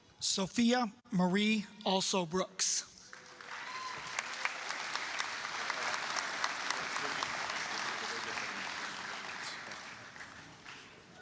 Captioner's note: applause, cheering